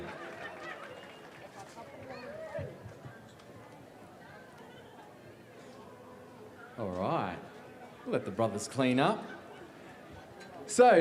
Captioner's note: cheering and applause